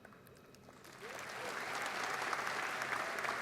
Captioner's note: applause